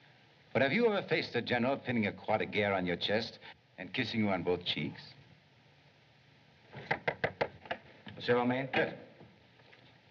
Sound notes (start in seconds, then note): 6.8 knocking